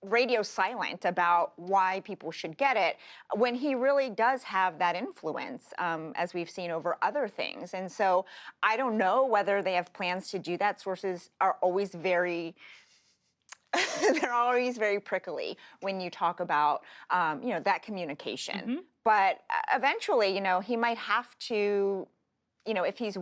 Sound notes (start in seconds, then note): 13.7 laughs